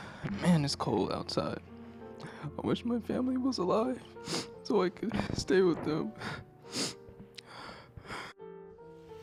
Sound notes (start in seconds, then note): 6.6 sniffles